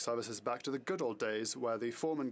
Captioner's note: speaking French